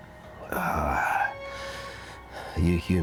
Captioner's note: Aladdin groans